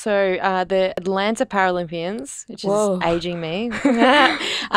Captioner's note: laughing